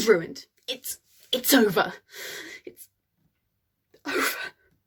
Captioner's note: deep sigh